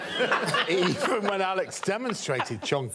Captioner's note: all laughing